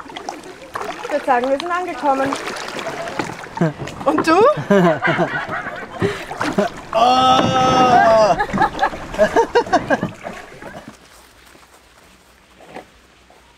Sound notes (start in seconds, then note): 4.5 laughter